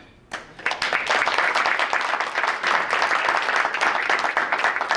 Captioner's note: group applauding